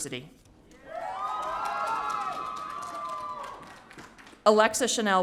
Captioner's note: audience cheering